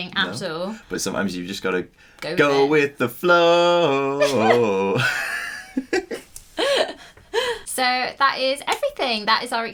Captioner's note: laughing